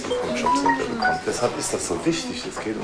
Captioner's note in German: Benachrichtigungston